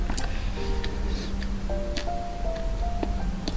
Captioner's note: chewing sound of boba